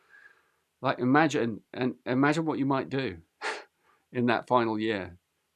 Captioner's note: chuckles